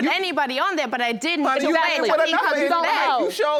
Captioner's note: both parties arguing